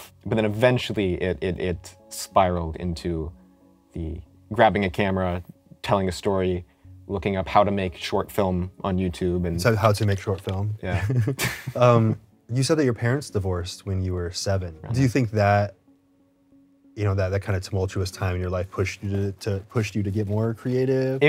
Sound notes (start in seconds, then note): 10.9 chuckles